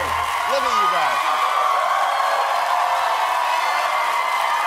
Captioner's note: applause